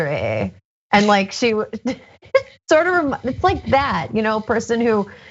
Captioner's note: laugh